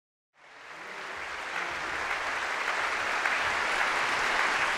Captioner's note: audience applauding